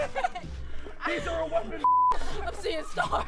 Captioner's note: beep